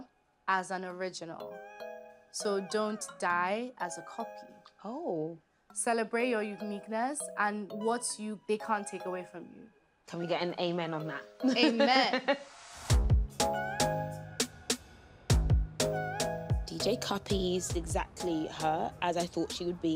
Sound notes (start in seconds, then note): 11.8 laughing